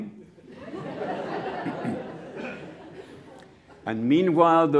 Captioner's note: laughter